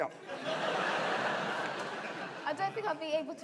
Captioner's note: audience laughing